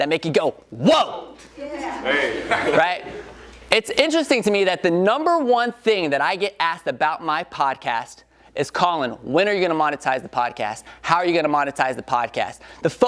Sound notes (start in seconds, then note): 2.1 audience members laugh